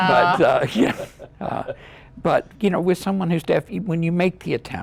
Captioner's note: laughter